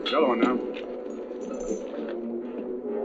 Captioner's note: chains rattling